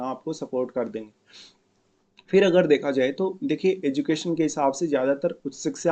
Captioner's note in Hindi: नाक से की जाने वाली आवाज़